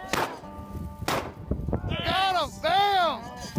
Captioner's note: gunshots